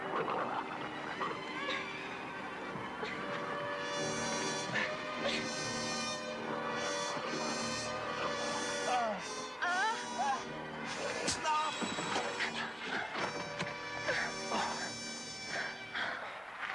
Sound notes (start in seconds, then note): 1.0 tribesmen babbling; 4.2 dramatic music; 8.8 both groaning; 11.2 root snapping; 13.9 dramatic music